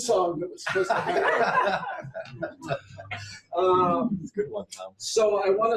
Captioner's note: audience laughs